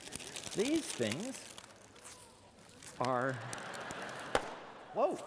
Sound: laughter

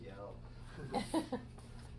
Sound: laughs

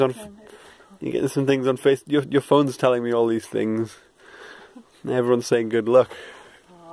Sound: stutters

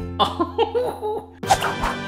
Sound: laughing; triumphant music

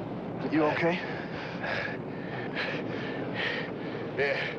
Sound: Roy breathing heavily

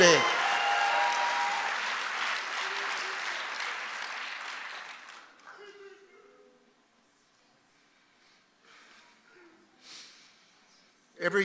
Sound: congregation applauding

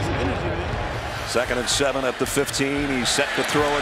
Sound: voiceover

